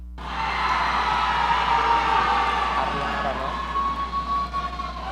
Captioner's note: audience cheering